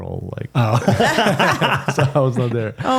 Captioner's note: laughing